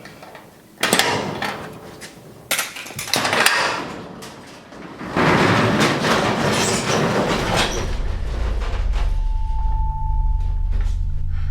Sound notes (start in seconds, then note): 6.3 door whirring; 7.8 tense music